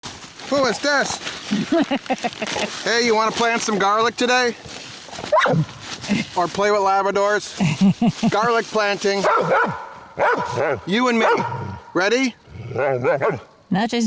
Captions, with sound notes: - Who is this? Hey, you wanna plant some garlic today? Or play with Labradors? Garlic planting. (dog barking) You and me. Ready? (dog barking)